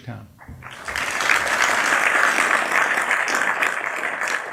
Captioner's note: applause